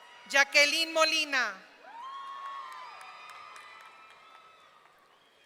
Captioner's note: audience cheering; audience cheering